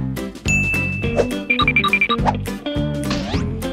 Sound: ding

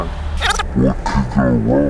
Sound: video skipping sound

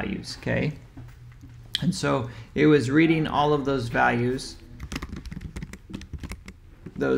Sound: keyboard typing sound

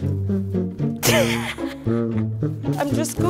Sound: laughs

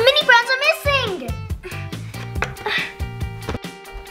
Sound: groans

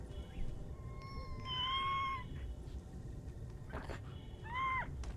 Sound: muffled sobbing

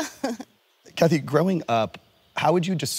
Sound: chuckling

